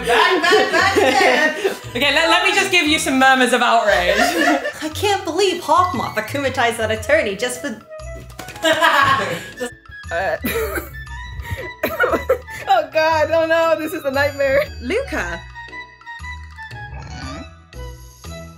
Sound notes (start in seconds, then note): 8.6 off screen laughter